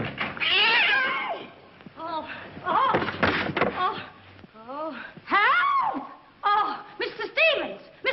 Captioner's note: cat screeches